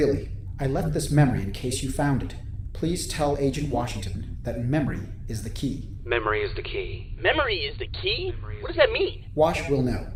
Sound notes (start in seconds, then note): 6.2 calm voice